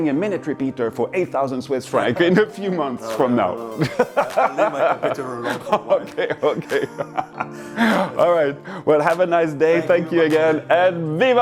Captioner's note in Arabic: يضحك